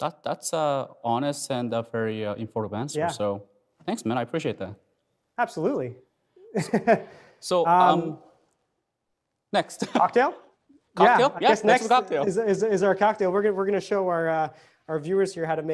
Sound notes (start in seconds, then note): 6.4 laughing